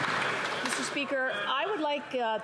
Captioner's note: some Applause